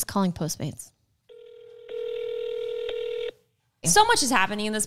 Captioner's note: phone ringing